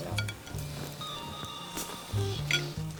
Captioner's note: phone ringtone